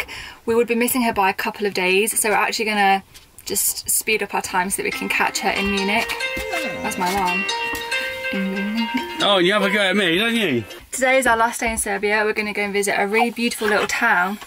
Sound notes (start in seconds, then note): 4.9 alarm goes off in background